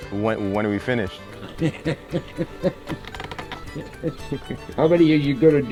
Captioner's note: laughing